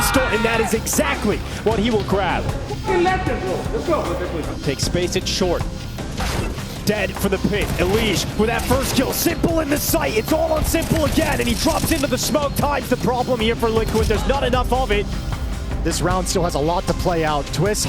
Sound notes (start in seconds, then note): 2.7 excited chatter